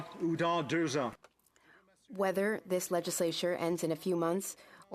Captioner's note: speaking French